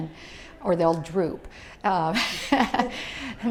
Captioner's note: laughs